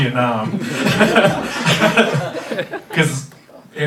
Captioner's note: laughing